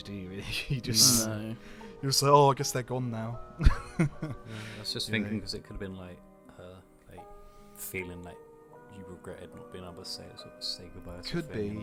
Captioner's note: laughs